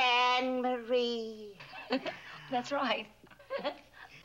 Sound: giggles

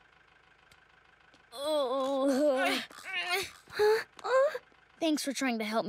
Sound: groaning

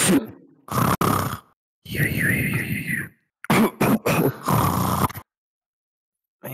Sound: snores s'more

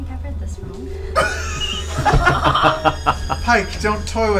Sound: all laugh

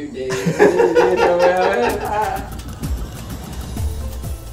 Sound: laughing drowns out speaker; upbeat exotic music

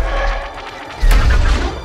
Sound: lasers firing

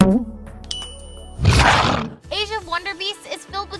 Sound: chime; roar

